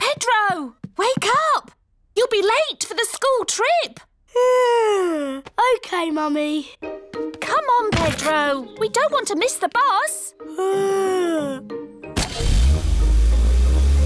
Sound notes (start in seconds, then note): 4.3 yawns; 10.5 yawns